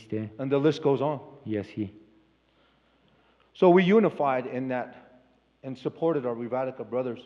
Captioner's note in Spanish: Expositor habla en inglés